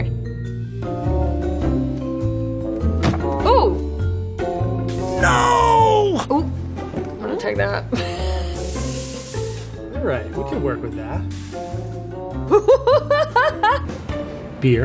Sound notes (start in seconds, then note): 7.4 laughs; 12.4 laughing